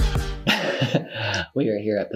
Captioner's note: laughs